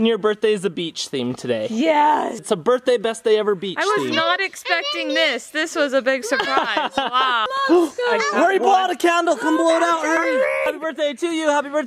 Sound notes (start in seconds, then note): 7.6 gasps